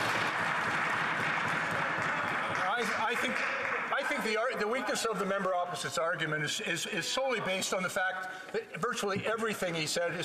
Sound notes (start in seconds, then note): 4.7 applause